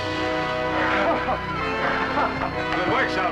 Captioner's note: chuckling